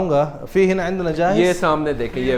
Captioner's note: Arabic